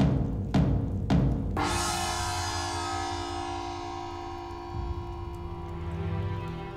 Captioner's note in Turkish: Gong sesi